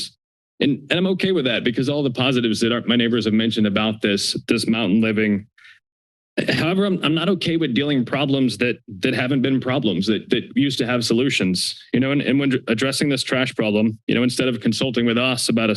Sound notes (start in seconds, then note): 5.5 inhales